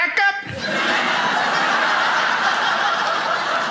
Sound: crowd laughs

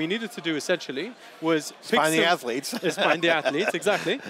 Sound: laughs

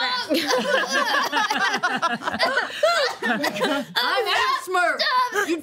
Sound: entire group laughs

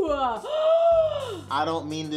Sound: Tia gasps

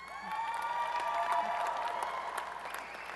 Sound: applause and cheering

